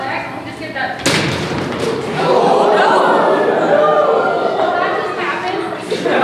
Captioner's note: audience gasps